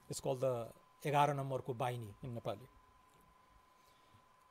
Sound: foreign language

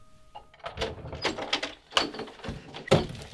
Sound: door opening; door closing

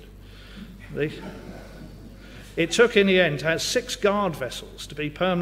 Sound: laugh

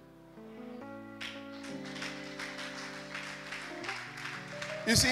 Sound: clapping

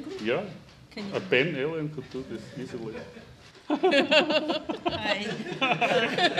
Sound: laughing

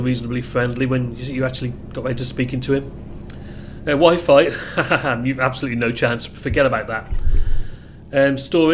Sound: laughs

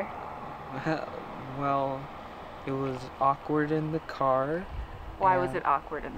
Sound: laughs

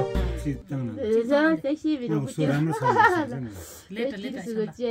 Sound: tibetan conversation

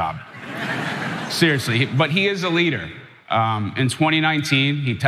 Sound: laugh

